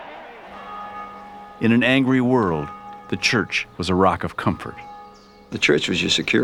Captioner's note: church Bell Rings